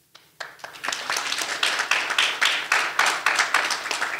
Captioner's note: audience applauding